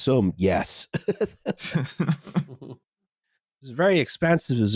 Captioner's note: laughs sobbingly